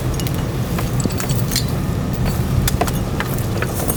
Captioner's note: metal clanking